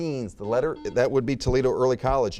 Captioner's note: buzzer beeping